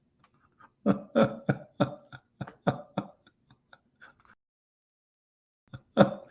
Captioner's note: Ketawa